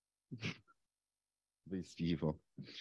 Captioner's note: chuckles